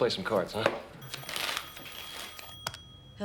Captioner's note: telephone rings